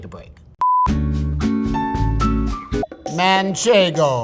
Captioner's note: screen beeps; upbeat music; gentle music